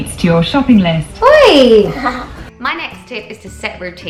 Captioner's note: son laughing